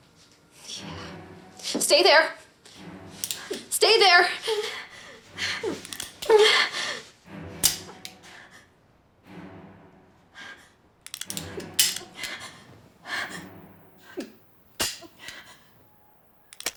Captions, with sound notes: YEAH. STAY THERE! STAY THERE. [whimpering] [gun clicks] [gun clicking]